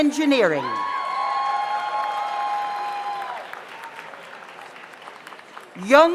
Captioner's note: audience cheers; audience applauds